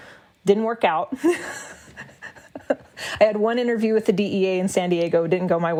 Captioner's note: laughs